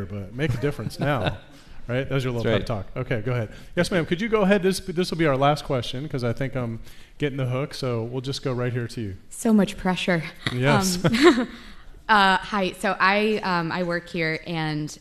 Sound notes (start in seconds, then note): 10.4 laughs